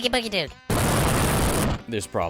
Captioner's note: nuclear explosion